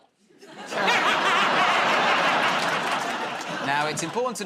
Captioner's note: laughter